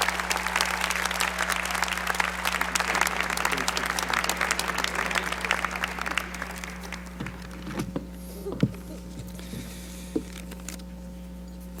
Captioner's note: applause